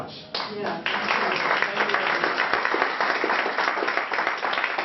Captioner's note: applause